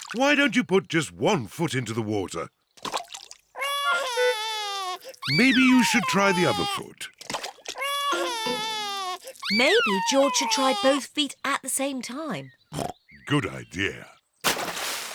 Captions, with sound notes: Why don't you put just one foot into the water? (CRIES) Maybe you should try the other foot. (CRIES) Maybe George should try both feet at the same time. (OINKS) Good idea.